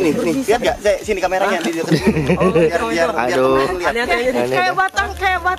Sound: nervous laugh

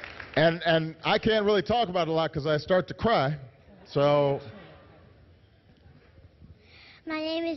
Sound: applause

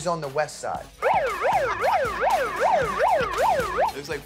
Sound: siren blares

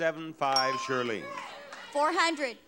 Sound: bell dings

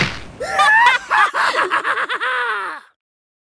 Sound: evil laugh

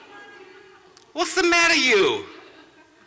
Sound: laughter

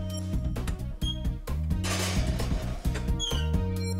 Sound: metal clanging

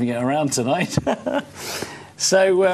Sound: chuckling

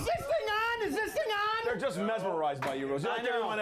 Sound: audience cheering

